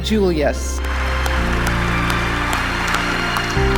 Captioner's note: applause